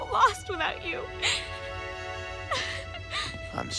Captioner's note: sobbing